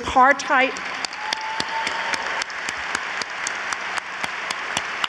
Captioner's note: audience applauds